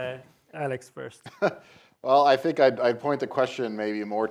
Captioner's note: laughs